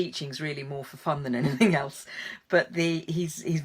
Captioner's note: chuckles